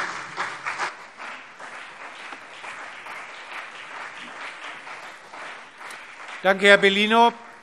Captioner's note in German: Beifall CDU und BÜNDNIS 90/DIE GRÜNEN